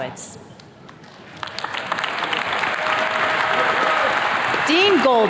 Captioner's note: attendees cheers and claps